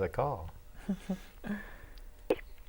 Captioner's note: laughing